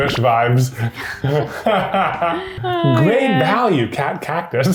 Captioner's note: laughing